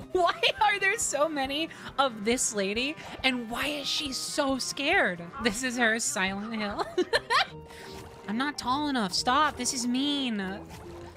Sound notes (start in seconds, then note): 6.6 laughter